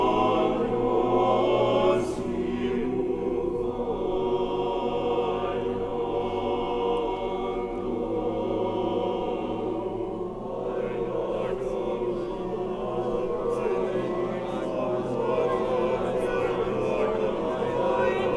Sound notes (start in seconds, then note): 13.7 choir muttering